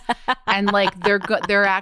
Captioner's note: laughs